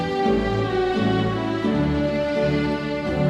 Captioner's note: none